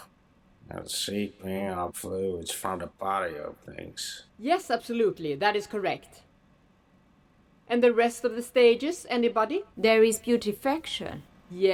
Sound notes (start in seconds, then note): none